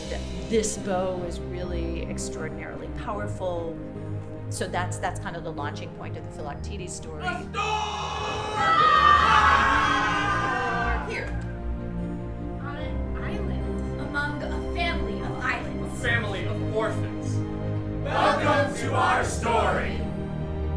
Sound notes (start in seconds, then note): 7.0 shouting